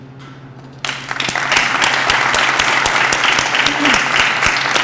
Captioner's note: applause